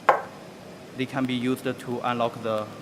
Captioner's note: knocking